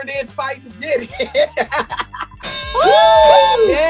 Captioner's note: Sheryl laughs; bell dings; women cheer